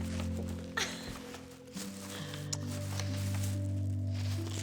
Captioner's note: Candace laughs